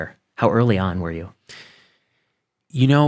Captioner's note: none